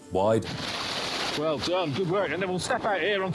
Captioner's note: water splashing